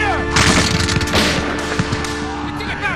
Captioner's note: guns banging; soldier shouting in French